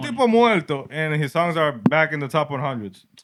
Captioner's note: speaking Spanish